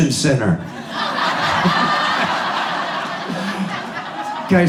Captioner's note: audience laughs